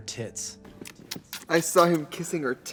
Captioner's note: lips smack